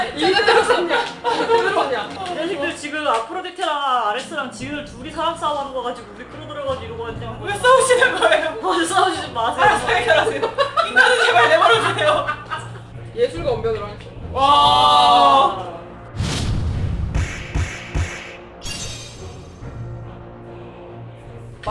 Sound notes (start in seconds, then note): 12.7 laughing